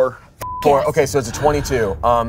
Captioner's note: beep